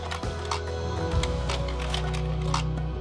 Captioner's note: projector clicks